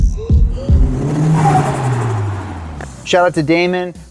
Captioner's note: engine revving